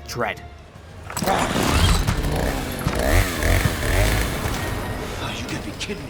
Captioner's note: chainsaw revs